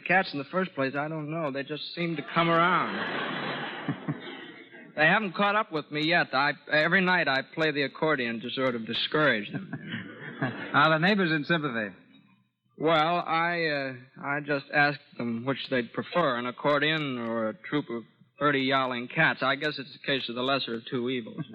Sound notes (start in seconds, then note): 4.6 audience laughs